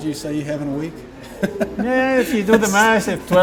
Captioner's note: laughing